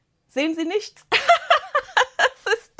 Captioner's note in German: Gelächter